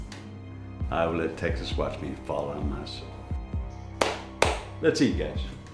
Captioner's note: claps